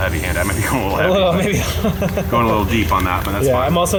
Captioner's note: laughing